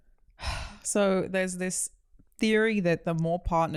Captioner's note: sighs